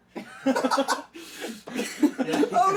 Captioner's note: laughing